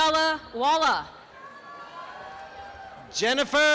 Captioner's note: applause and cheering